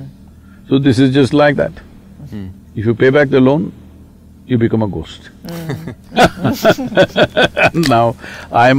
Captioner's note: laughter